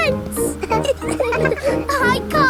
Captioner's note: all laughing